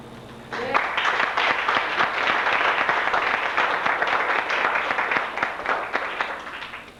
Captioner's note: applause